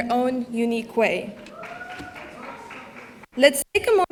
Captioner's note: audience applauding